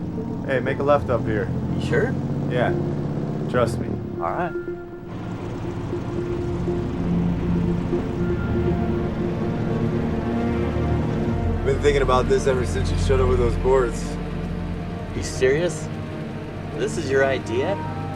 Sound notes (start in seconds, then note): 5.7 engine rumbling; 7.9 bright music continues